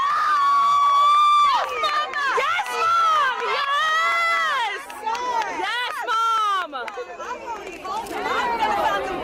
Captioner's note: cheering